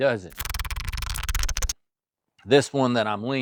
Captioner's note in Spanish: Keyboard Clicking